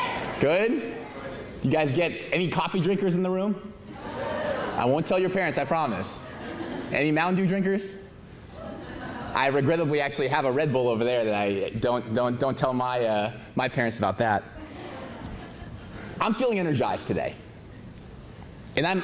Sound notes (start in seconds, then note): 6.2 laughter; 14.6 laughter